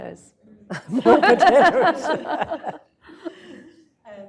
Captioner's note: laughter